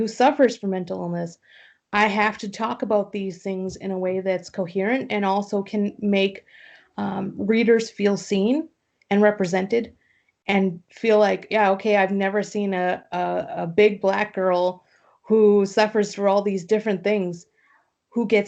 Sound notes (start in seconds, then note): none